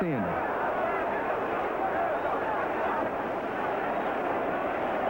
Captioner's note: crowd cheers